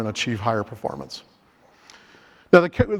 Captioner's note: inhales